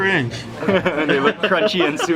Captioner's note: laughing